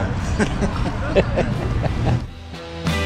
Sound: men laughing

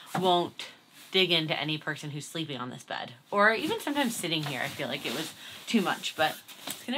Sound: none

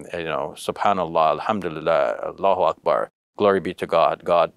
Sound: speaks Arabic

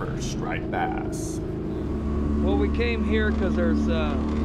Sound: boat engine running

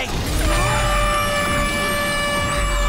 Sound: air horn wailing

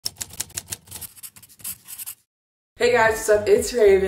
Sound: typewriter tapping; pencil scribbling

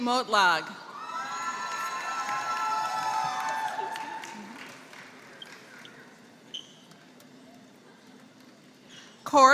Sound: applause

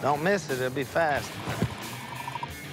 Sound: radar gun chirping

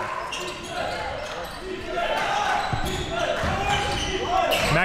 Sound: crowd cheering

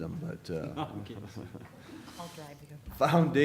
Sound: laughter

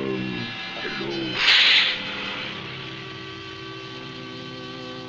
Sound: sniffing

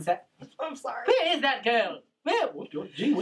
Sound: laughs

